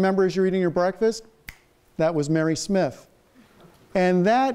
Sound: fingers snap

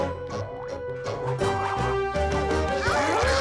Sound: Word Monster squawks

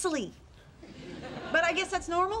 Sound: audience laughing

